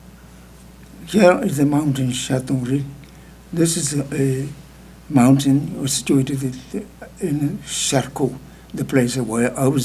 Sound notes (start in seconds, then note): 2.6 speaking tibetan